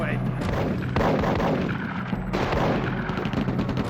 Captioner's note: guns firing